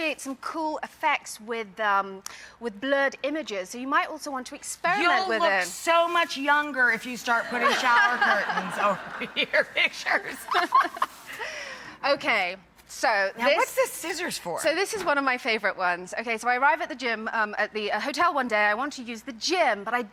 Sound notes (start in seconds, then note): 11.3 laughs